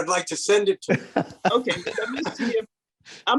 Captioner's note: laughing